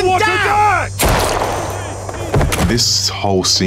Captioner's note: gun pops